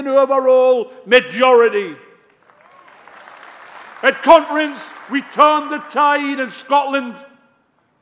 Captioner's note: applause